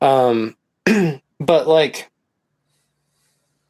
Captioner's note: clears throat